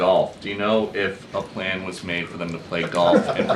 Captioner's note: laughter